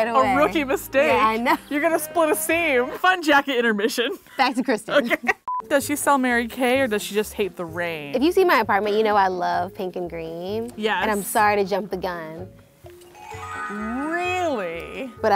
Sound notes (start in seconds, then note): 5.3 laughs